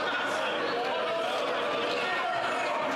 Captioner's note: some Applause